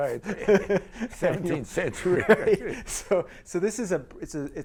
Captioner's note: laughing